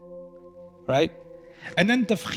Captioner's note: Arabic